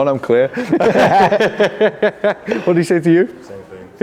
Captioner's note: all laughing